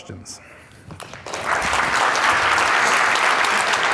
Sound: applause

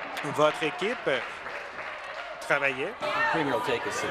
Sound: applause

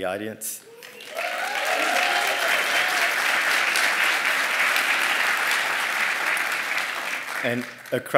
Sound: applause

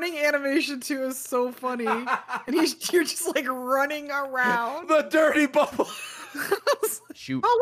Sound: laughs

